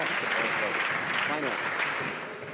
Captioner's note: some Applause